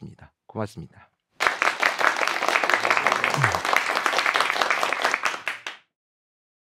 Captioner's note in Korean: 박수